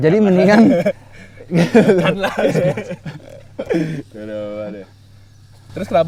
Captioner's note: laughs